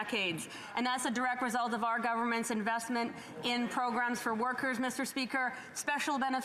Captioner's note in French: voix de l'interprète